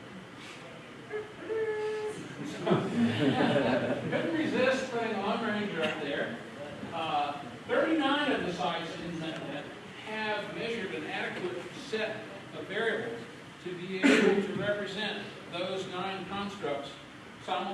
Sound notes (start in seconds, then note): 1.1 makes trumpet noise; 2.2 laughter